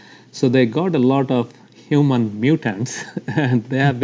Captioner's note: laughs